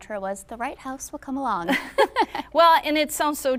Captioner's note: both chuckling